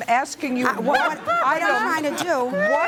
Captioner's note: laughs loudly